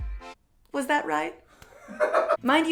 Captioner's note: background laughter